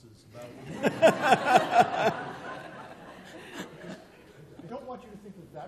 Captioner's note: laughter